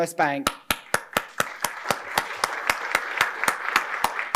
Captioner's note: applause